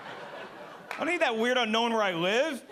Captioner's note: audience laughing